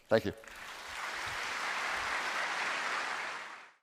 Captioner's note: applause